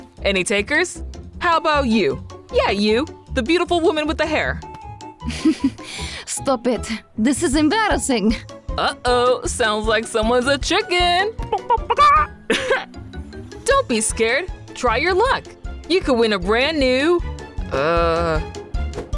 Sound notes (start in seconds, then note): 5.3 giggles; 11.8 mimics chicken, then laughs